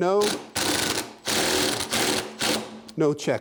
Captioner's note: drilling